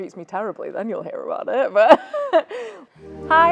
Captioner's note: laughs